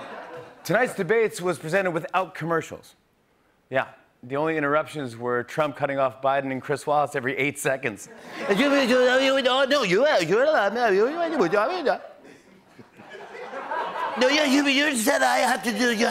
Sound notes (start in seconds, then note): 8.4 rapid stammering; 11.4 rapid stammering; 12.9 laughter